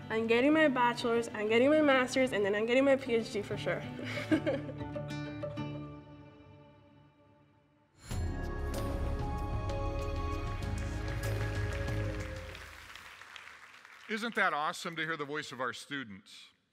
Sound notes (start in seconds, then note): 4.0 laughs; 10.3 applause